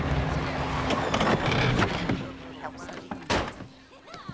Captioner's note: car gearbox grinding